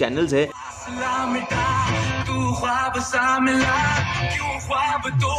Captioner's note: audio being played in the radio